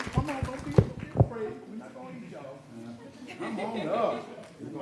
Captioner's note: applause